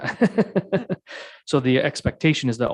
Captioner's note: mayor laughing